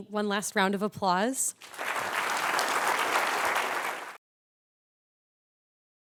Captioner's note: applause